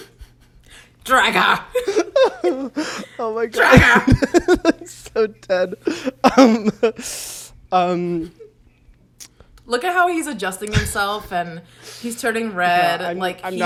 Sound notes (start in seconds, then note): 5.6 laughs